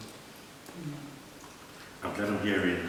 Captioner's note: SOUNDS OF mmmm & NODS OF AGREEMENT